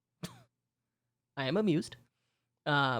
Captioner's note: chuckle